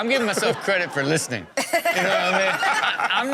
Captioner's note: all laugh